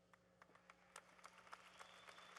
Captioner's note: applause